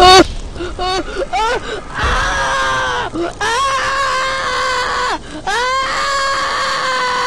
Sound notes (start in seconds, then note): 0.7 screaming